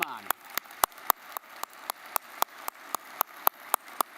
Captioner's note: audience applauding